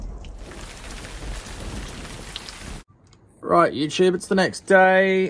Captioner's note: rain pouring